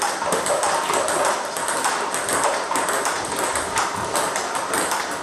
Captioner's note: ball ping pong hitting continues